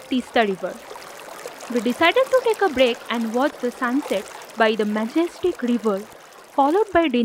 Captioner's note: flowing river sound